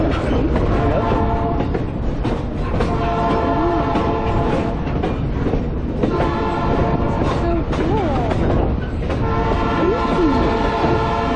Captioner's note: train Horn